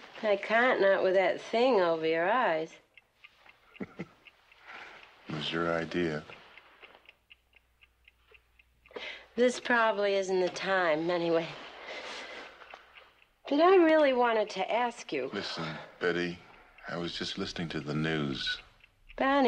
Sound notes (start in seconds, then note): 3.6 chuckles; 7.3 clock ticking